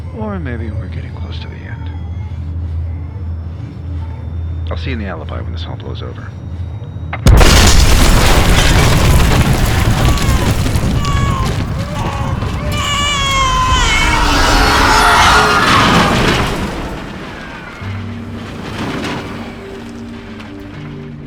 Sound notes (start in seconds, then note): 10.4 a baby cries; 12.2 everybody cries; 14.4 screaming